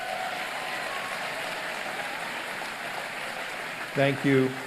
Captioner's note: applause